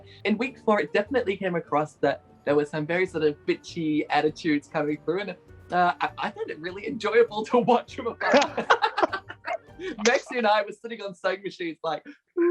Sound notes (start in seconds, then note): 8.2 both laughing